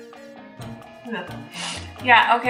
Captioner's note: scoffing and sniffling; lips smacking